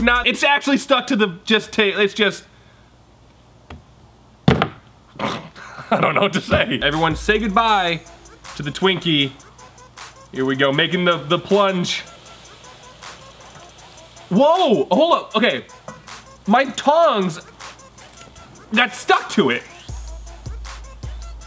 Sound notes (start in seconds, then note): 4.5 bangs on table; 13.3 sizzling